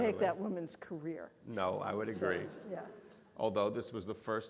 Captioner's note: audience laughing